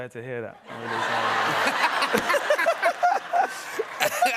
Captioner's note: laughter